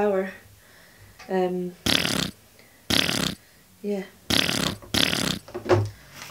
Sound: fart noise

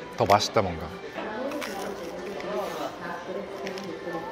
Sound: Crunch

